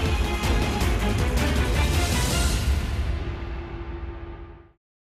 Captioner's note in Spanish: Disparos